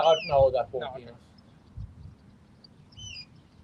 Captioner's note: birds chirping